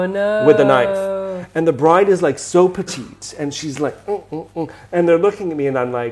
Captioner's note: grunts